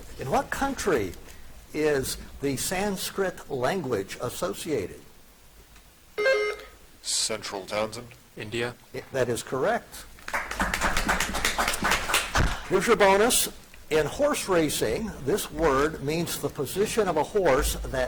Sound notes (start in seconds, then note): 6.2 buzzer chiming; 10.2 audience applauding